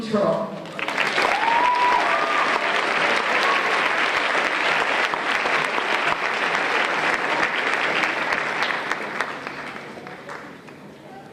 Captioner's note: applause